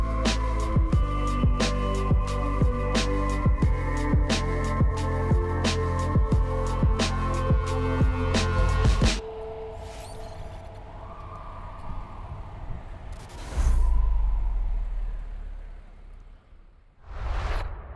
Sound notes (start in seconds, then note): 9.2 sirens blare